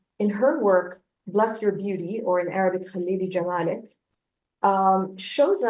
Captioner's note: speaks in Arabic